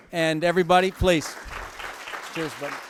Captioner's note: applause